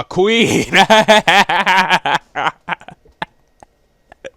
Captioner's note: laughs